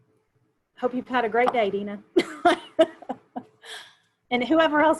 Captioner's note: chuckles